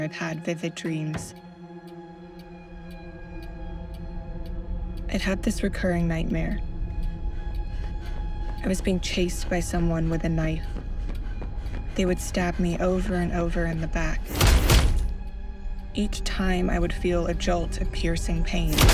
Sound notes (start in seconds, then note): 14.4 stabbing effect; 14.5 dramatic music; 18.7 stabbing effect